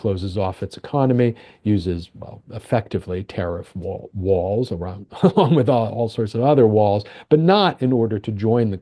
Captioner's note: laughs